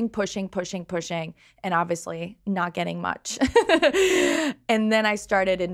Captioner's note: laughs